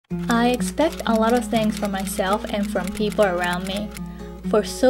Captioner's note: typewriter sound